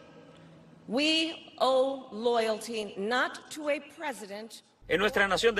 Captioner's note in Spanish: hablando en inglés